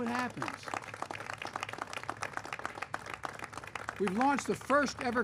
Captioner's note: applause